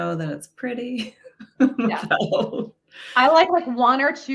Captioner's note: laughs loudly